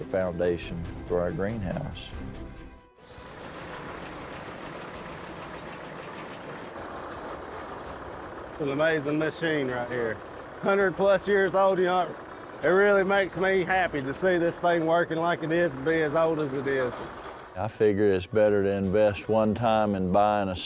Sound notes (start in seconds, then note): 3.0 whirring